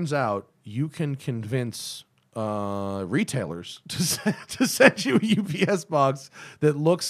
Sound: laughter

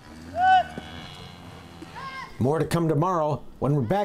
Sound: shouts

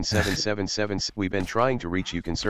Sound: tts robot

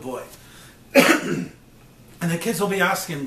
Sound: coughs

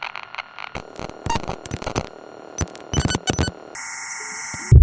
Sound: more glitch noises

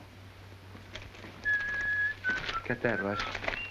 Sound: secretary whistling

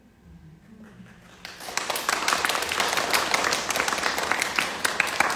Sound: audience clapping

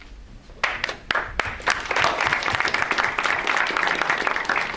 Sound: audience applauds

